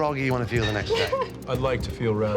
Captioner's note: laughs